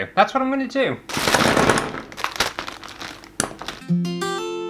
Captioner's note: ducks Clattering